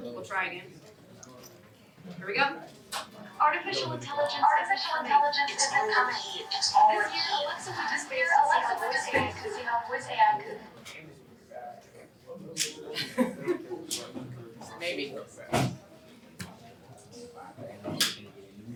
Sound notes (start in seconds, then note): 10.6 indistinct chatter; 12.9 chuckling; 13.4 indistinct chatter